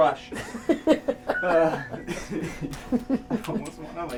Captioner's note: people laughing